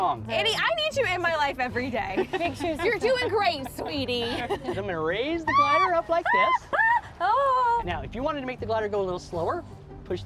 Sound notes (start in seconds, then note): 6.2 yelling